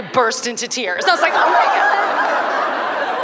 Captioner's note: laughter